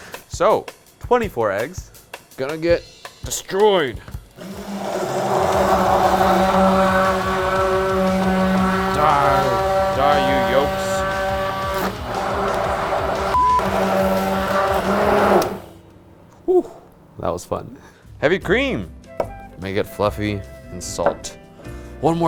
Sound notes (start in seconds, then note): 4.4 immersion blender whirring; 10.7 energetic heavy metal music; 13.3 beep